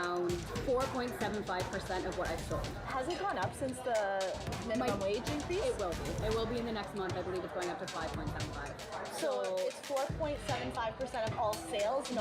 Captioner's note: servers and reporter talking